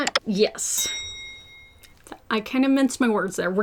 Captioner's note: bell dings